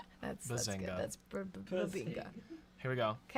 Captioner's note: softly laughing